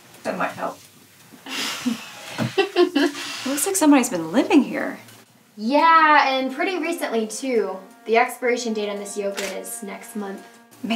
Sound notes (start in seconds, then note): 1.4 chuckling